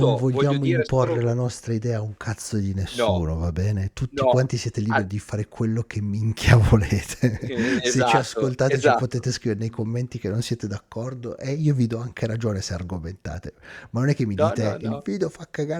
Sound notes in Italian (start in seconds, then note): 7.0 risate